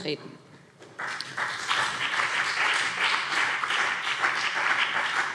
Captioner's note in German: Beifall BÜNDNIS 90/DIE GRÜNEN und CDU